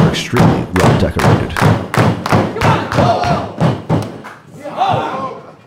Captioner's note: audience cheering